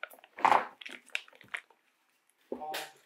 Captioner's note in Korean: 쫍쫍